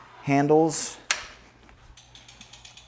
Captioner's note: bike wheels rattling; platform arm clicks